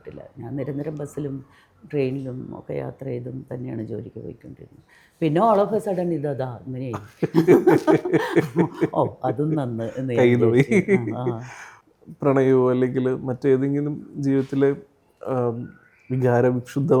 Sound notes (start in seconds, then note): 6.9 laughs